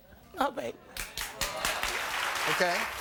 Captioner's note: applauding